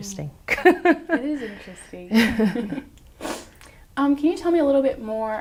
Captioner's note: laughs